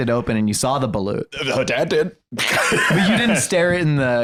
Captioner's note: laughs